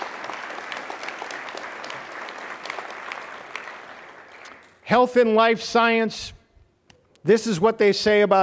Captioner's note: applause